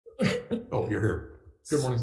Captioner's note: coughs